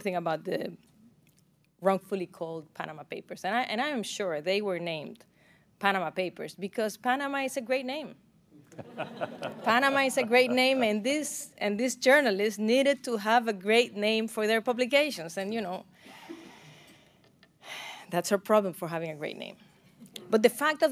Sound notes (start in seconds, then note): 8.6 laughter